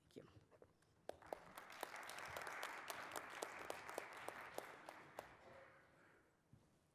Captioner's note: applause